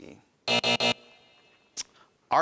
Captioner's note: buzzer buzzing